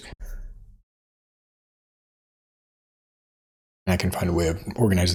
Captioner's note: blank Audio